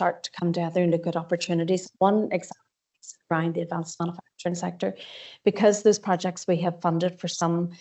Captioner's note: audio distorts 44.26